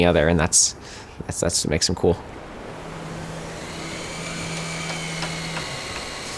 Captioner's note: sounds of the buzzing workshop